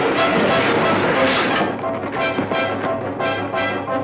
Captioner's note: wagon clatters